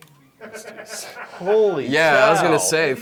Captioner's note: offscreen laughter